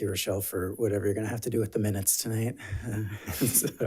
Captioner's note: laughs